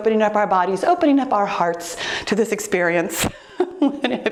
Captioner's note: laughs